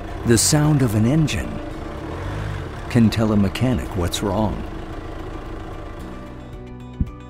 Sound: car engine sound

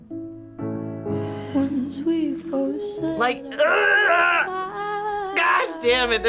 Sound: groans

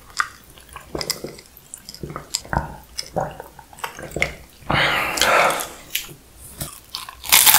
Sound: sniffles

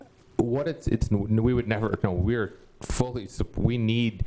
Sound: stuttering

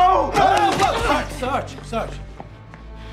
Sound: shouting

